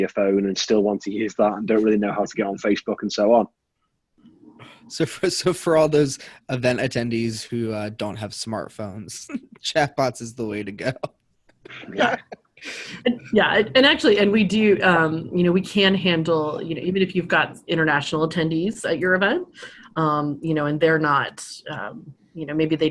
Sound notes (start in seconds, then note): 11.6 all laughing